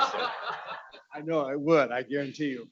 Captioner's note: laughing